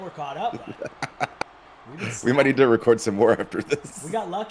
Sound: laugh

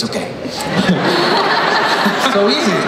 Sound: everyone laughs

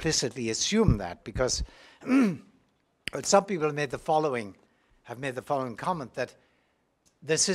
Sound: cough

